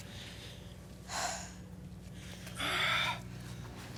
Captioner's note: Jane exhales deeply; exhales deeply